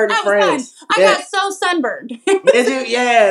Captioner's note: laugh